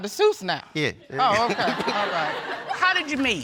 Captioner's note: all laughing